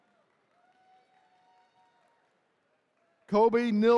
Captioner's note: attendees cheering